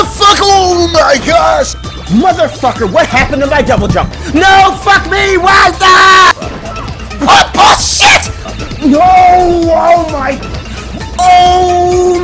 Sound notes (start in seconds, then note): 5.4 screams